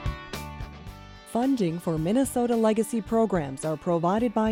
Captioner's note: voiceover